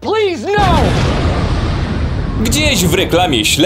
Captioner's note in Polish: boom!